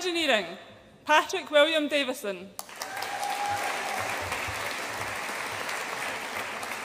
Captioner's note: audience applauds and cheers